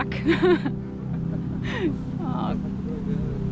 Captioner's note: laughing